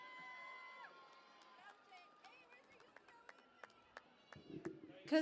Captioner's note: cheering and Applause